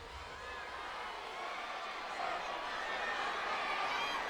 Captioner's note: audience cheers